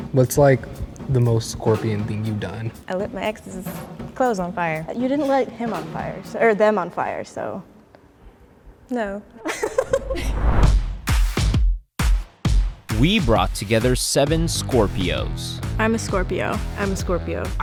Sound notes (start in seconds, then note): 9.4 group chuckles; 11.2 electronic music